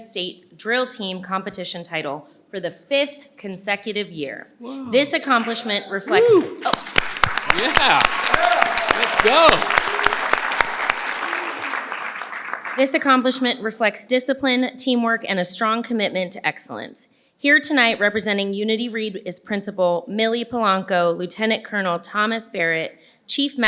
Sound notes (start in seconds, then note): 8.6 participants clap